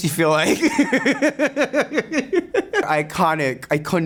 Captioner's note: Sasha laughing